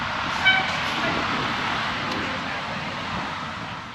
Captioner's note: car toots